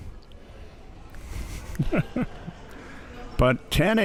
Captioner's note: laughs